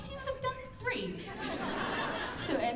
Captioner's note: laughter